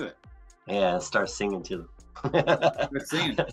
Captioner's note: laughs